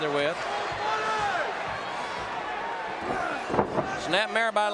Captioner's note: audience cheering